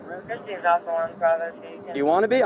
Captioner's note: radio chatter